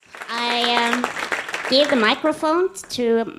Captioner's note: audience applauds